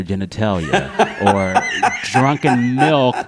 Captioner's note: laughter